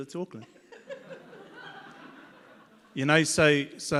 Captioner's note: audience laughs